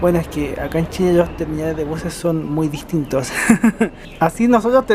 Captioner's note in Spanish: risas